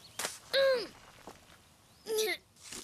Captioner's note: grunt